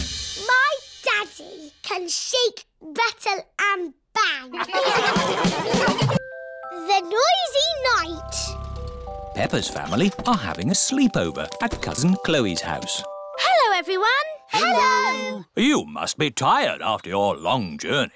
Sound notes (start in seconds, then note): 4.5 all laughing